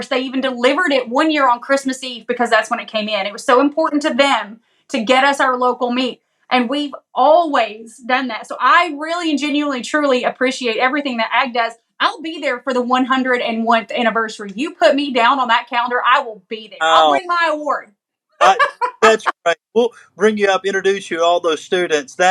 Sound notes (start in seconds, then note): 18.4 laugh